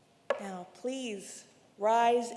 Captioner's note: wood thuds